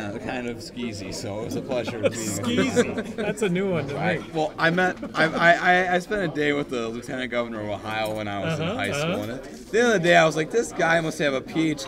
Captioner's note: laughs